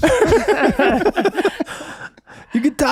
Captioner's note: all laughing